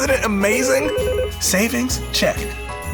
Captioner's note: phone ringing